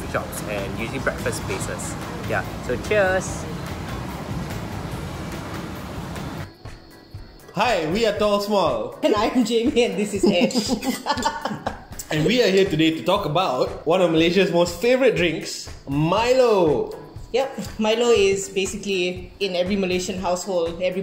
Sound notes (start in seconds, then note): 3.7 upbeat music; 10.1 both laughing